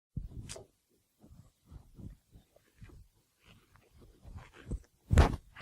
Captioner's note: silence